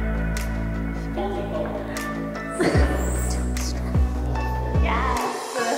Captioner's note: laughing